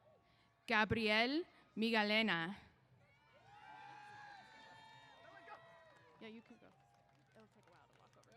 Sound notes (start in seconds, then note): 3.1 cheers